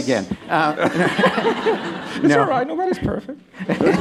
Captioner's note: laughter